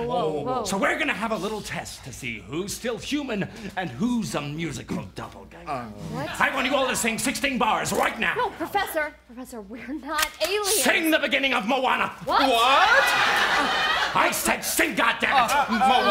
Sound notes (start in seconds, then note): 10.2 cocks Gun